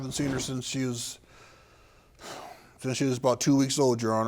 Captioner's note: sighing